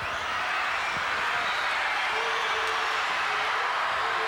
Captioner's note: audience cheers